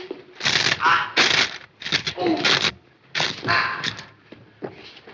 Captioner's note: joints cracking; Junior groaning